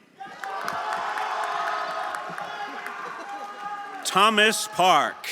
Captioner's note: everyone applauding and cheering